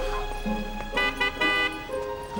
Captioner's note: honking